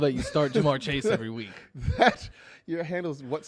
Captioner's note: laughs